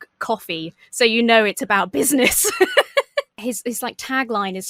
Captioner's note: laughs